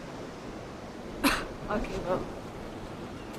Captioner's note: laughs